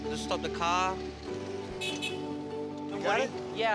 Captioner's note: horn honks